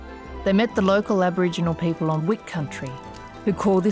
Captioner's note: fire crackling